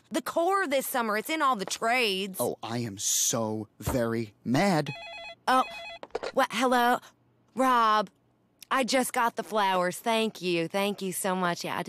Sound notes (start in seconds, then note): 4.8 phone rings